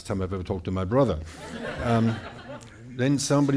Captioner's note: audience laughing